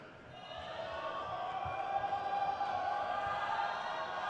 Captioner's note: crowd cheers